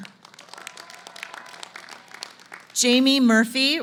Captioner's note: applause